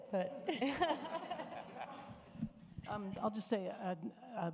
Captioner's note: audience laughing